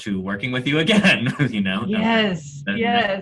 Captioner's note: laughing